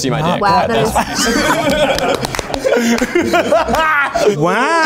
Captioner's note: all laughing